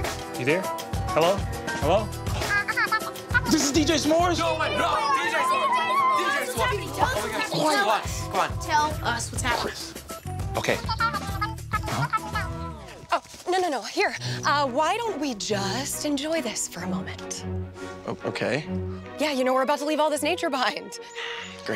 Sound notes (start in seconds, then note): 4.7 excited chattering